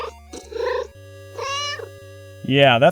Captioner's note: meow